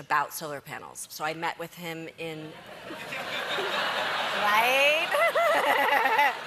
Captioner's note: laughter